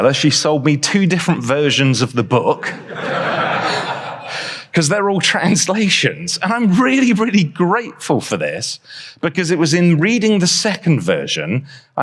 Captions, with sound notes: she sold me two different versions of the book, - [audience laughs] because they're all translations. And I'm really, really grateful for this, - because it was in reading the second version -